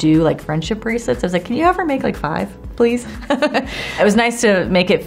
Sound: chuckles

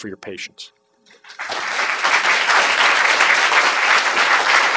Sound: applause

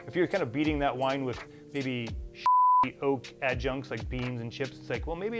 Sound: beep

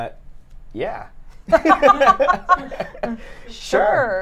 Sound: everyone laughs

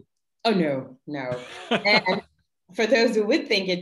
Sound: laughing

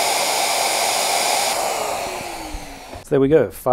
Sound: machinery whirring

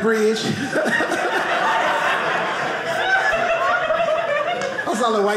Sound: audience laughing

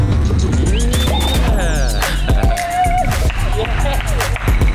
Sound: laughs

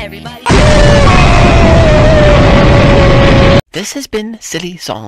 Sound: explosion

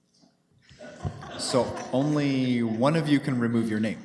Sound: laughter

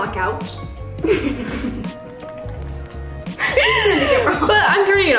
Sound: both laugh

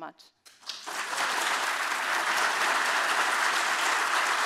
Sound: audience applauding

